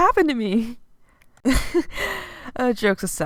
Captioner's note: giggle